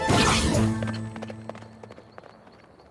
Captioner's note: hoofbeats